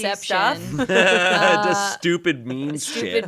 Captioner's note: everyone laughs